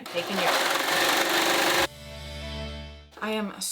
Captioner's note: sewing